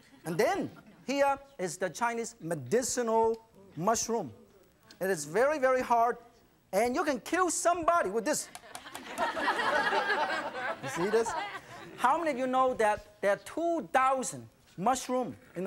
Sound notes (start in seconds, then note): 8.5 audience laughs